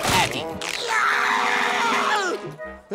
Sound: screaming

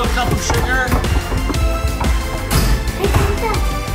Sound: door knocking

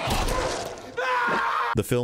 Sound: screaming

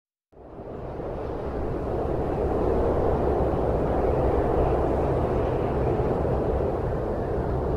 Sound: wind howling

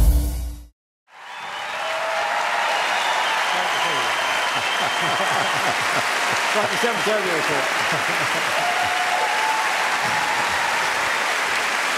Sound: cheering

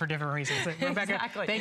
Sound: laughter

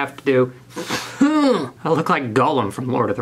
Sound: man grunting

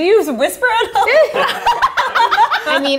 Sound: all laughing

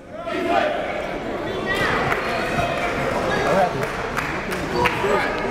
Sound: applauding and cheering

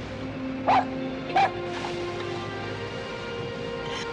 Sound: dog barks

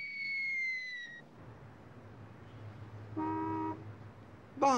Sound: car honks

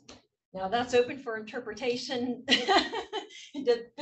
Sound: laugh

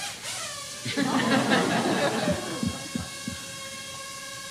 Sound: laughter

